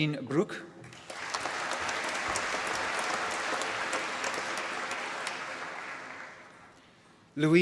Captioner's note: applause